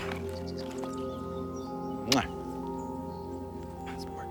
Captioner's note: kissing